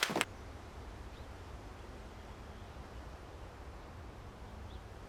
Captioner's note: breeze blowing